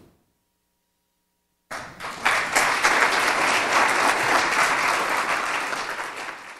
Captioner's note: audience clapping